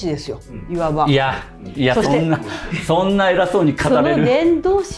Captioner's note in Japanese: 笑い